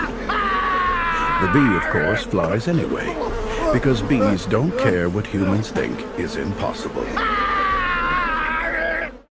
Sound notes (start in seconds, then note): 2.8 Coughs up Bee